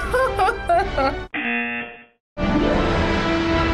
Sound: laughs; buzzer rings

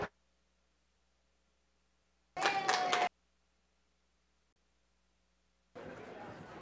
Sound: applause

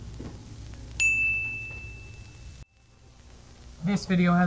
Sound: dinging

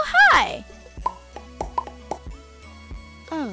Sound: popping Sounds

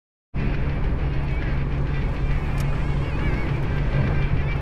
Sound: traffic humming

